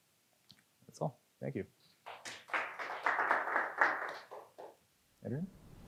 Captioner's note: audience applauds